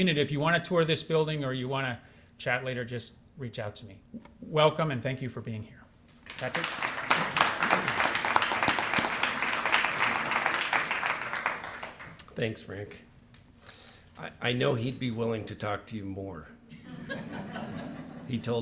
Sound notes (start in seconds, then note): 6.2 applause